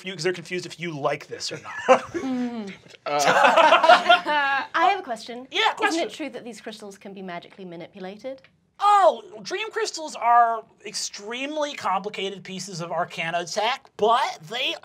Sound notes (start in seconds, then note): 1.4 giggling; 3.1 laughter